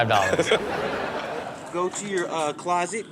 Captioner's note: Sterling laughs